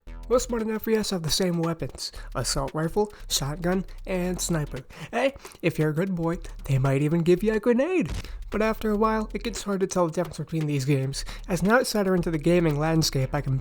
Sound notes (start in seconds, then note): 8.0 loud explosion